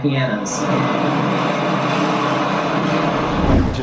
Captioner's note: satellite crashing